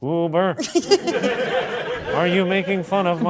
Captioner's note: crew laughing